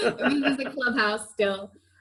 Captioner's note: laughs